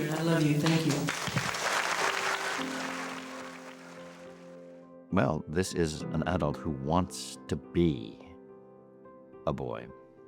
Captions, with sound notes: I love you, thank you. (applause) Well, this is an adult who wants to be a boy,